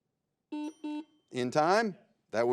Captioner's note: buzzer beeps